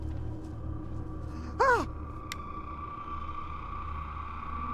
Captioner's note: screams